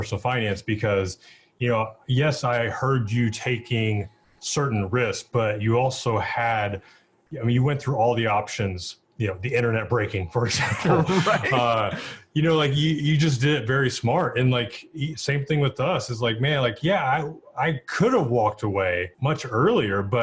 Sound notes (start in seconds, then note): 10.6 laughs